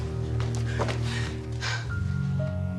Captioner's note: panting